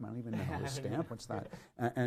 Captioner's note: laughs